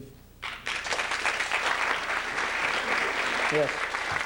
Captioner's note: applause